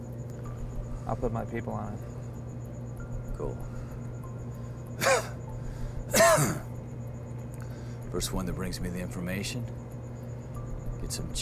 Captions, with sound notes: I'll put my people on it. Cool [coughs]. First, one that brings me the information gets some